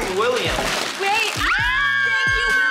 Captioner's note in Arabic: صراخ متحمس